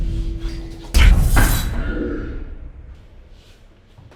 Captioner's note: thudding